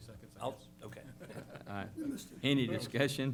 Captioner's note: laughter